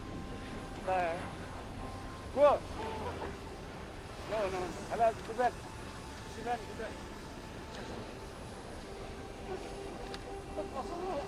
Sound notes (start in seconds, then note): 4.3 speaks foreign language